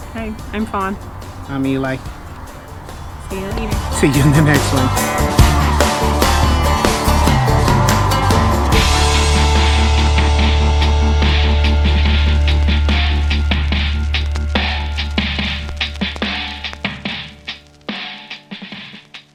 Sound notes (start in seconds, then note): 5.3 upbeat country music; 12.6 fire crackles